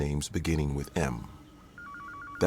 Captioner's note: phone rings